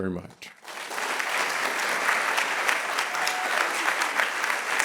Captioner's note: audience clapping